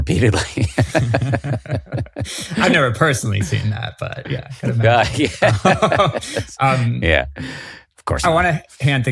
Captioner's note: both laughing